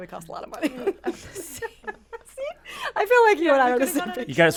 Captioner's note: laughs